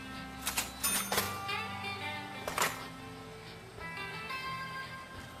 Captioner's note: cash register ringing